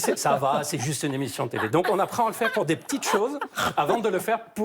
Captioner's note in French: rires